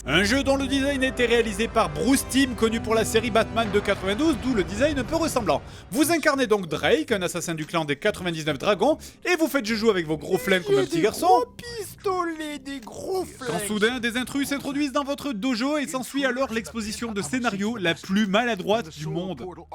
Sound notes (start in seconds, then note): 11.2 child voice